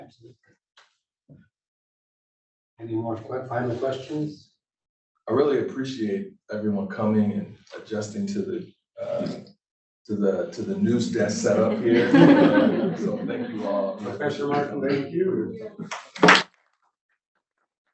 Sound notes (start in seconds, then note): 11.2 laughter; 15.8 applause